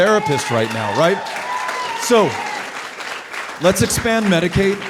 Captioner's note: audience cheering